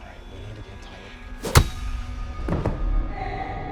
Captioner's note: metal whacks; Ben thuds